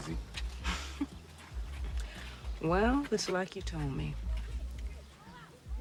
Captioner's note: sighs